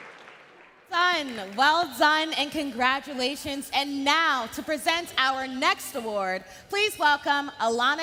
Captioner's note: cheering and Applause